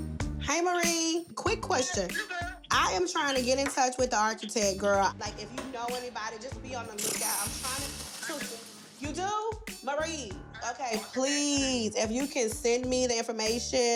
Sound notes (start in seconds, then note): 2.2 on phone